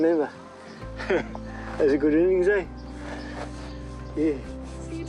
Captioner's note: laughs